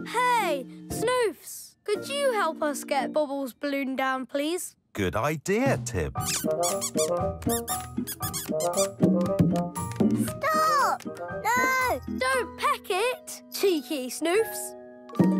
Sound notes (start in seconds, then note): 6.3 chirping